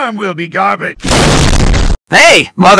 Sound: crash

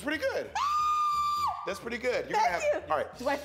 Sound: screams

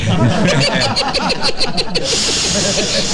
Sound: laughing

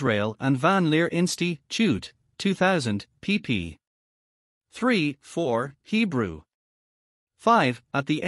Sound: Hebrew

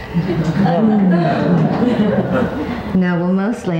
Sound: audience chuckles

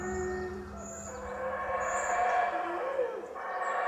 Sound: animal howling

